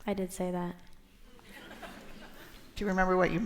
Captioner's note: laughter